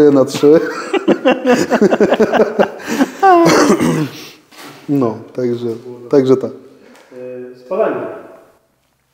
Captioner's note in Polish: śmiech